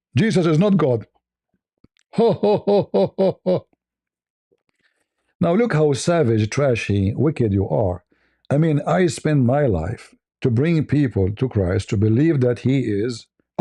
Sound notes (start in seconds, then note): 2.1 ketawa